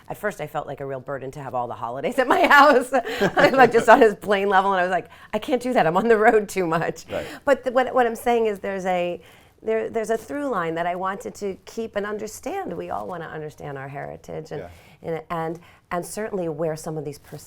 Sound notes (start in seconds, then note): 2.2 laughs